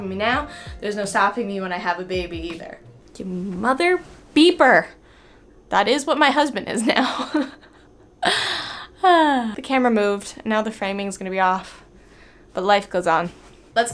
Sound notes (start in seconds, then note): 7.0 chuckles